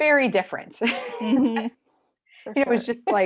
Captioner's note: laughing